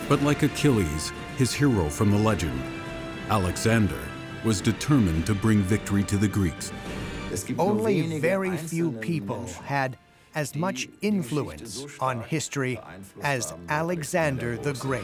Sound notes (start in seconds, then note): 7.4 in German